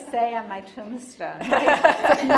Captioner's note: audience laughing